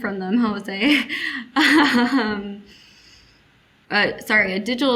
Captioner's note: laughing